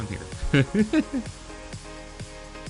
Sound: laugh

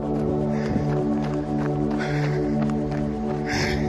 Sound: panting

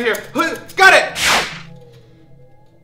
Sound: whoosh

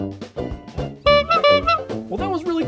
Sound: horn honk

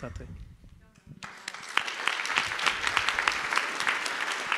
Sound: audience claps

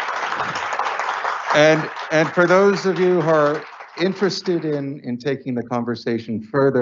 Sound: applause

